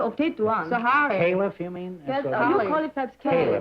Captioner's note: chatter